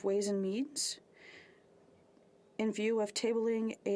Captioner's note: speaking French